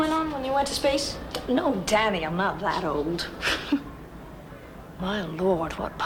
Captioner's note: laughs